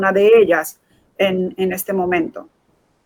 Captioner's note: speaking in Foreign Language